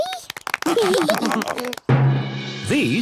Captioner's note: clapping, laughing